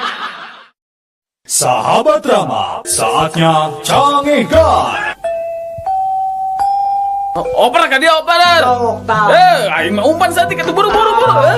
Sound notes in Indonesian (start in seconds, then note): 0.0 tertawa; 5.2 lonceng